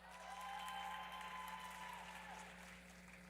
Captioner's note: applause